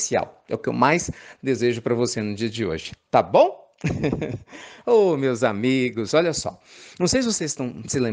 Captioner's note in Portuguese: risos